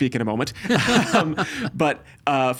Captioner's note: both laughing